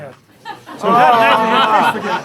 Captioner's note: laughter; groans